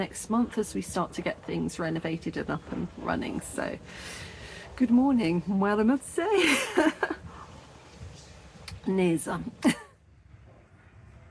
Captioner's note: laughing